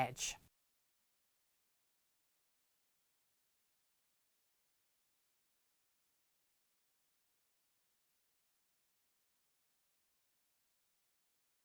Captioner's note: no Sound Present